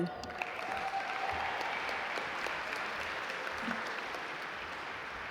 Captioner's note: audience applaud